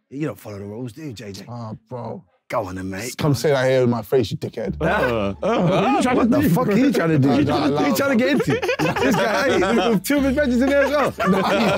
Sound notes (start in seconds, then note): 8.6 laughing